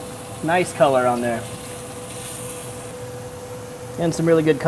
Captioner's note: chicken leg sizzling